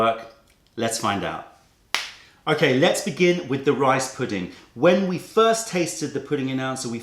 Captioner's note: snaps fingers